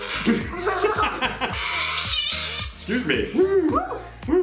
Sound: squeezing

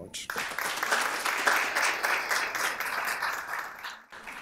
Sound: applause

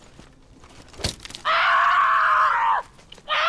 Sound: screams in anger

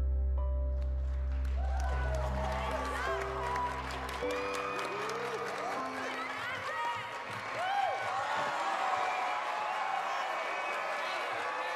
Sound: people cheering

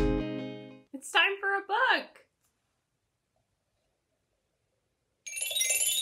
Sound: bell sound

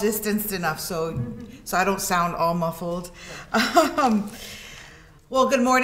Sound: laughs

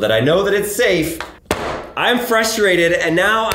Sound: bangs a box on the table

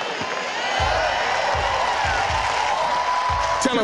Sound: cheering

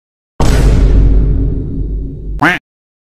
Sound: dramatic Vine Boom

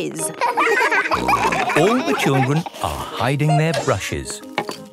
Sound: laughter; snorting

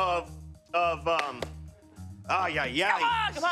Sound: slapping hands together

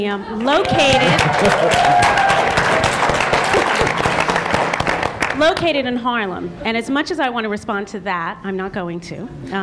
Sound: cheering/Applause

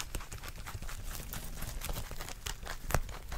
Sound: buns crunch crunch

